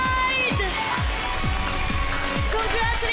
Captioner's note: audience cheering